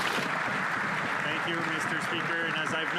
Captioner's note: some Applause